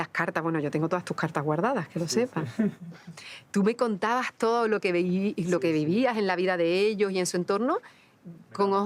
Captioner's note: speaking Spanish